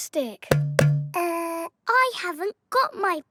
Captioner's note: hollow clunking